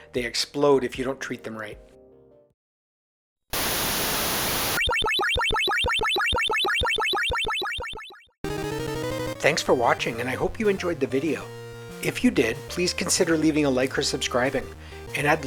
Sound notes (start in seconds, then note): 3.5 static; 4.7 sci-fi beeping